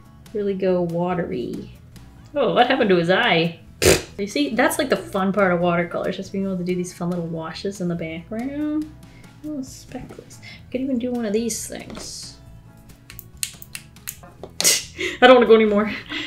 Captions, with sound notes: Really go watery. Oh what happened to his eye? Pffft See, that's like a fun part of watercolors, just being able to do these fun little washes in the background. Add speckles. Could even do one of these things. [Tapping] [Short chuckle] I don't wanna do anymore.